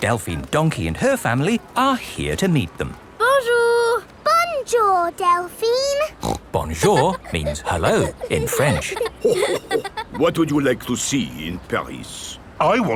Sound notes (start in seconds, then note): 6.1 snorts; 9.5 chuckles